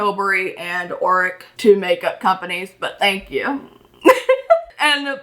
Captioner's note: laughs